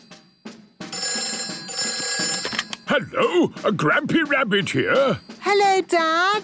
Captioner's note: phone ringing